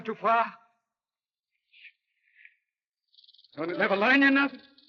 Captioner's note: snake rattles